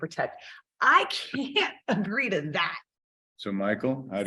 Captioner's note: chuckling